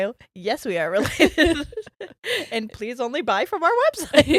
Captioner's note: both giggles